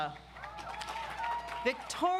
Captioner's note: audience applauds